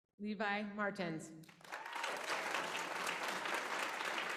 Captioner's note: applause